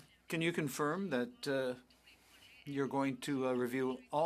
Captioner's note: speaking French